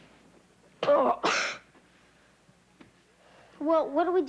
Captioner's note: coughs